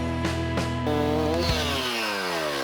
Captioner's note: chainsaw grinding